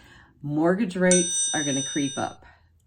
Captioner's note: bell dinging